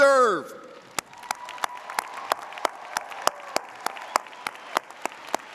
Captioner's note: audience applauding